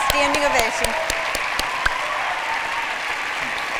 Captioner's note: applause